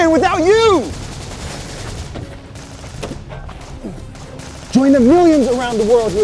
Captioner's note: gunshots firing